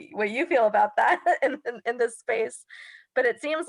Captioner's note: laughing